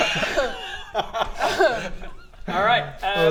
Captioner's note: unsympathetic laughter